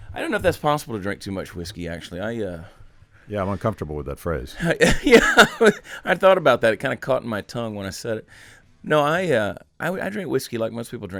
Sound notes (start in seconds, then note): 4.6 laughing